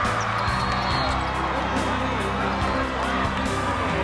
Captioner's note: whistle